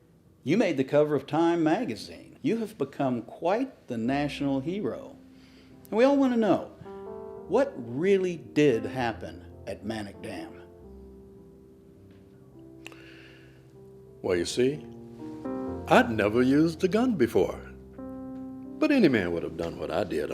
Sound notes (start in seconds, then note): 10.8 soft piano music; 12.8 inhales